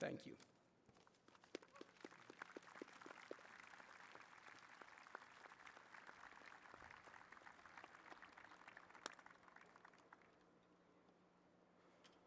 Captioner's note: applause